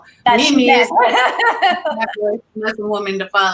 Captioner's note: laughter